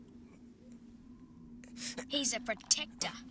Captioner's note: hisses